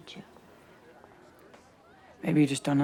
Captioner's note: crowd chatting